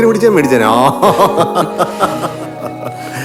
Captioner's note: laughing